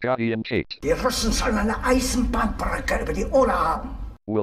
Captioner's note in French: au téléphone